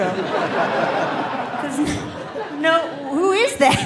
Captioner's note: audience laughing